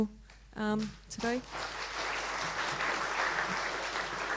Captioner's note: applause